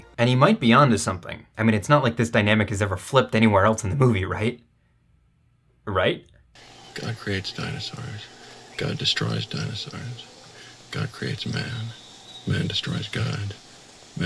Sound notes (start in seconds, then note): none